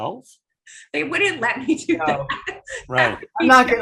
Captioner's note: laughing